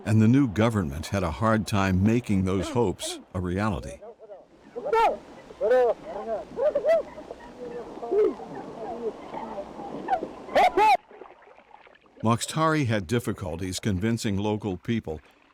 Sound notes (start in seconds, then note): 4.8 man shouting; 5.6 people chattering; 10.5 man shouting; 11.4 water lapping